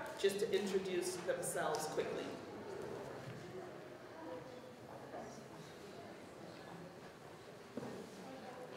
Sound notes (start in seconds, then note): 2.9 audience chattering